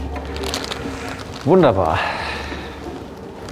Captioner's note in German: seufzt